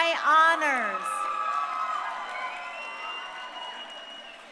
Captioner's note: crowd cheering